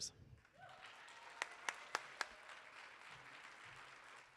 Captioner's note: audience applauding